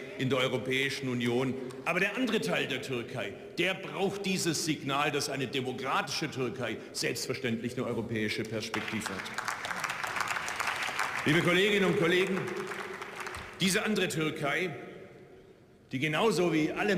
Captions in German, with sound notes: der Europäischen Union. Aber der andere Teil der Türkei, der braucht dieses Signal, dass eine demokratische Türkei selbstverständlich nur europäische Perspektive hat. [Beifall] Liebe Kolleginnen und Kollegen, diese andere Türkei, die genauso wie alle